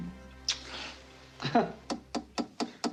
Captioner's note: tap on door